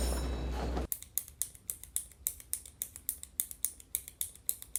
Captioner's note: skateboard rolling; pen clicking